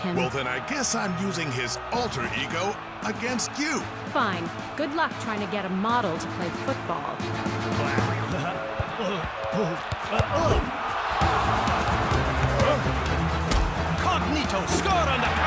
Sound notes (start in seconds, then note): 7.8 chuckling; 11.2 crowd cheering